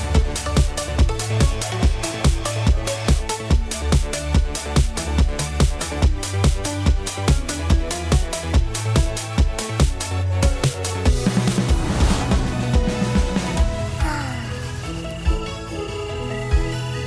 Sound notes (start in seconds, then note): 13.9 sighs